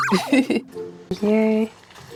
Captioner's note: laughs